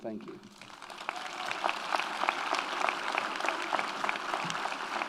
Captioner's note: audience applauds